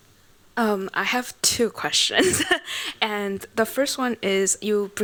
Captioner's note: laughs